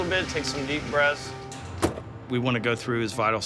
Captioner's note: slam